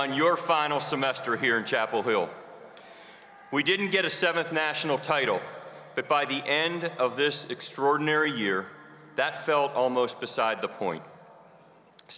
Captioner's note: cheers and applause